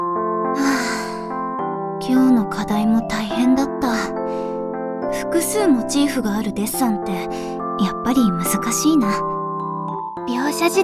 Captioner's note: sigh